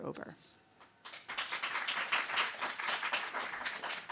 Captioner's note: applause